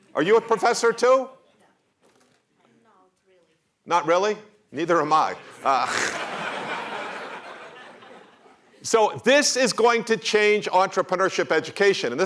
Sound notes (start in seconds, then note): 5.4 laughter